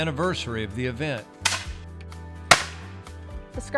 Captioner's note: weapons firing